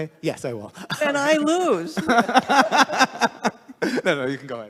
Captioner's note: laughing